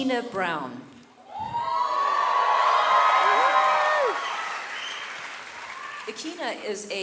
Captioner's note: audience cheering and clapping